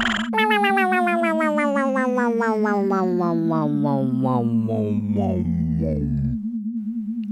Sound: motor slowing down

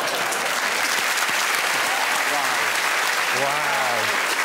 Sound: cheers and applause

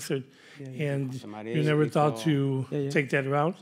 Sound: speaking faintly

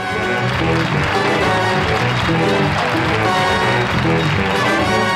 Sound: audience clapping; upbeat music

